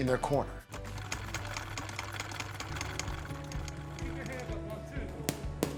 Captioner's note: sewing machine whirring